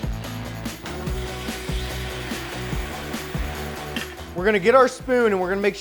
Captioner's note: upbeat music; sizzling